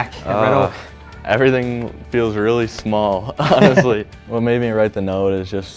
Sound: both laugh

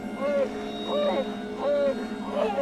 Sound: howling

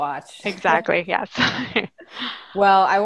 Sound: laughing

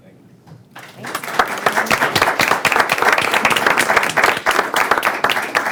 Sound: audience applauding

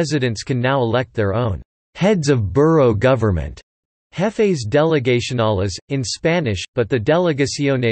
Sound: jefes delegacionales, in Spanish

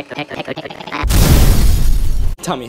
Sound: explosion

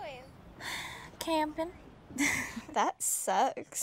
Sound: sighs

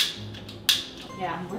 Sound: lighter sound

